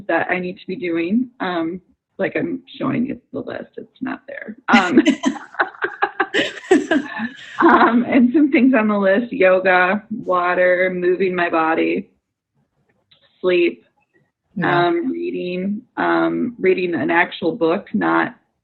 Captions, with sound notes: that I need to be doing, like I'm showing you the list. It's not there. (laughs) And some things on the list: yoga, water, moving my body, sleep, reading, reading an actual book, not on the internet,